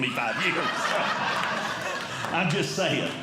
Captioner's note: audience Laughing